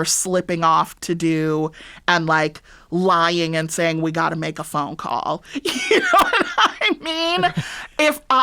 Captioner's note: laughter